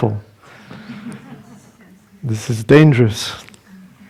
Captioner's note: laughter